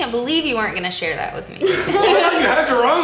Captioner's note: laughter